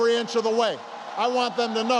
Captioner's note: applause